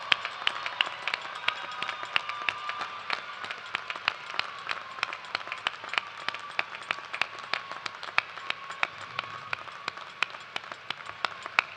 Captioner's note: cheers and applause